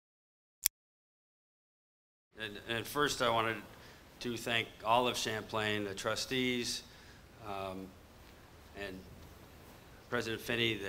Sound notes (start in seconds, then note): 0.9 click